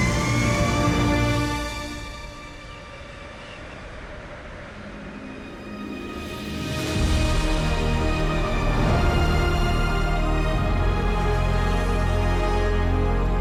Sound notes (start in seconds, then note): 0.0 jet engine rumbling